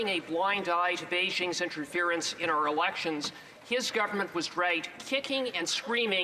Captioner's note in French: voix de l'interprète